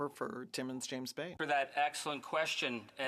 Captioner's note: speaking indigenous language